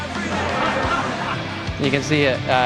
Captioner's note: laughter